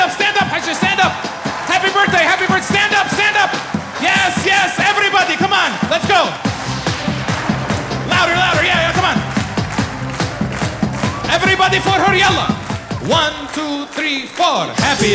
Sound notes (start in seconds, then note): 11.9 speaks in foreign language